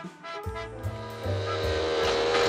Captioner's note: motor whirs